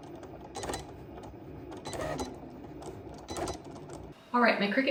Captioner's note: Cricut beeping